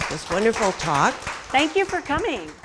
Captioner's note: applause